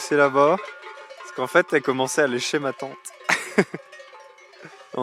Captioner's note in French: rires